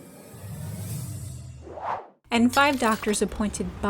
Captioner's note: whoosh- glass shatter